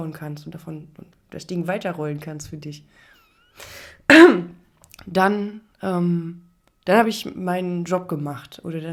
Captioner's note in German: räuspern